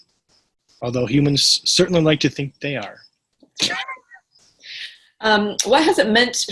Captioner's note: laughs